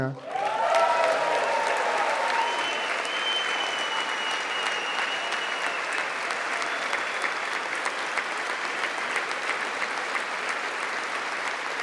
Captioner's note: applause